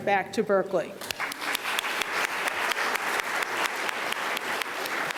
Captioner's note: audience applauding